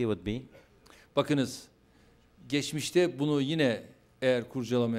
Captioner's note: non-english speech